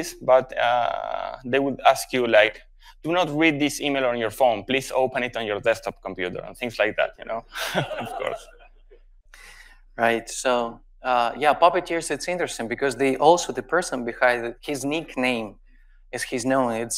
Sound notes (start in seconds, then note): 7.5 laughs; 7.6 audience laughs